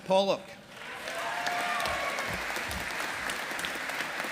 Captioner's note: audience applauding